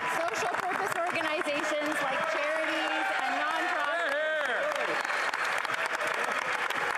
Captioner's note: applause